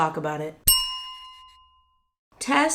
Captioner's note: bell chime